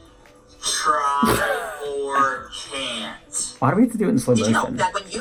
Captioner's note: laughs